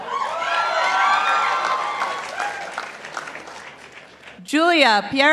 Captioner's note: participants applauding